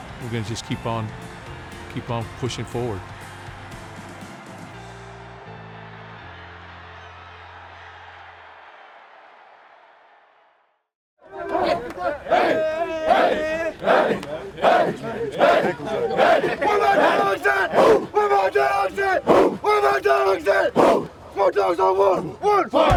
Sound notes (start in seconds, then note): 16.9 players chanting